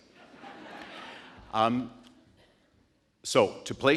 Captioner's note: audience laughing